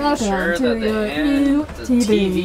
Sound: robotic speaking

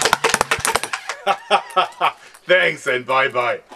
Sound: laughing

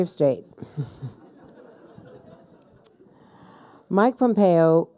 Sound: people laughing

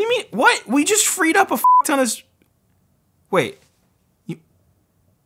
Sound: beep

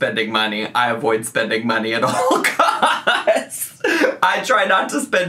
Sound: laughs

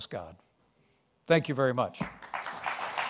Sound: applause

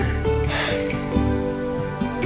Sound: sighs

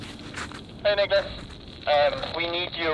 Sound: voice two over radio

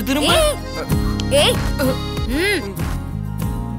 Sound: snaps finger

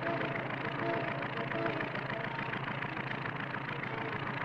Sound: plane rumbling

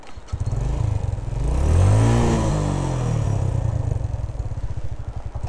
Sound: sound of motorcycle revving

